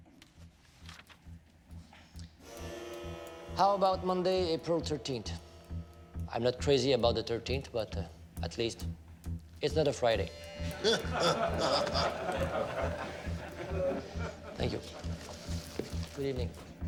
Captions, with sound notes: (soft tense music) How about Monday, April 13th? I'm not crazy about the 13th, but at least it's not a Friday. (everyone laughs) Thank you. Good evening.